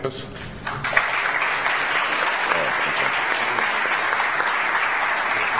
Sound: audience applauds

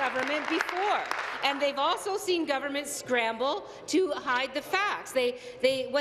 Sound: applause

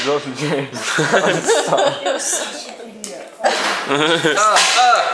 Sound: big laugh for little by all; does a laugh

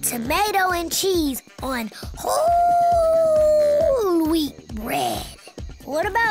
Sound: howling

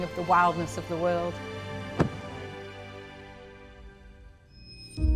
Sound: whale thumping; somber music

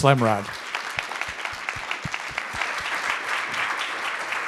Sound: audience clapping

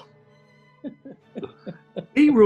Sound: chuckling

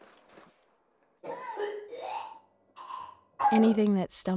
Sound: Odera retches

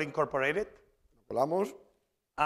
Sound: spanish

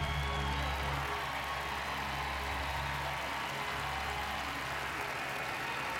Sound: cheers and applause

